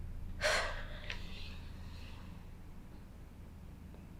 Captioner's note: Lorraine sighing